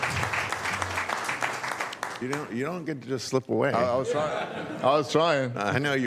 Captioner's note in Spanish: Aplausos